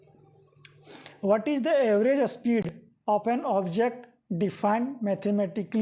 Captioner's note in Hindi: नाक से की जाने वाली आवाज़